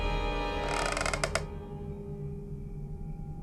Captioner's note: eerie music; creaking